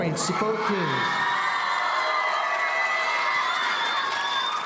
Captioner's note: audience cheering